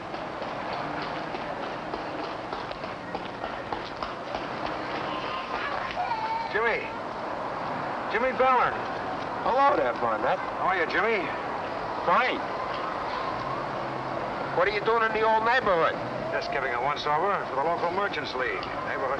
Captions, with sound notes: (horse galloping) (child whines) - Jimmy, Jimmy Butler! - Hello there Barnett. - How are ya Jimmy? - Fine. What are you doing in the old neighborhood? - Just giving a once-over to the local merchants league.